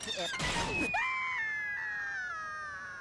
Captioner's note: stuttering; Porky screaming